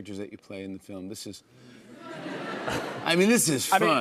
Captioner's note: laughter